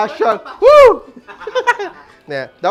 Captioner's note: laughs